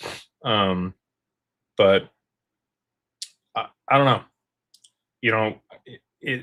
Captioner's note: snorts